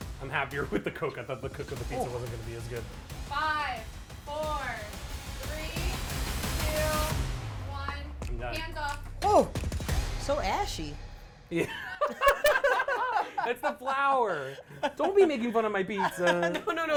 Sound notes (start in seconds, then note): 11.6 both laughing